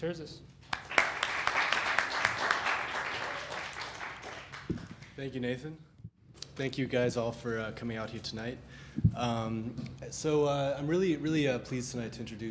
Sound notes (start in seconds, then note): 0.6 applause